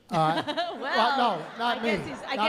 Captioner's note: laughs